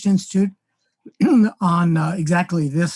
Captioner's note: clears throat